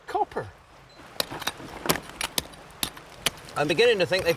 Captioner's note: hammers tapping